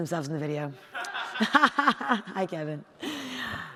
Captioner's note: audience laughing